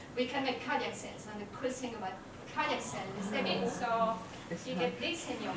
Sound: laugh

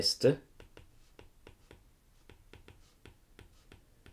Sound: screen tapping

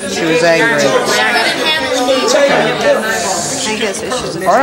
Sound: audience chatters

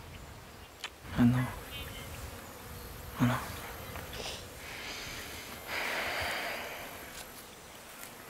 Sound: sigh

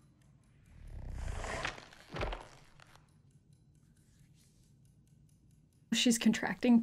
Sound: breathes deep; clock ticking; creature snarling

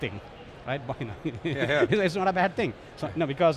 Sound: laughs

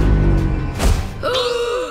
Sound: gasping

